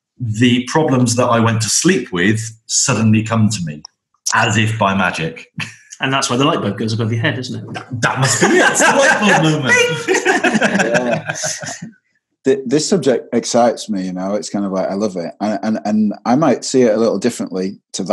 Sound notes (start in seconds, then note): 4.3 chuckles; 7.4 laughs